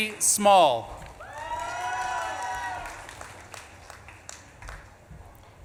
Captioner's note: audience claps and cheers